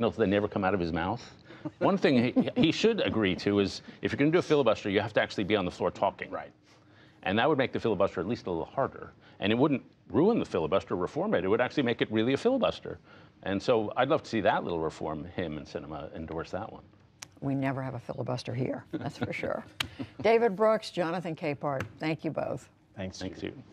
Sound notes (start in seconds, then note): 19.0 laughter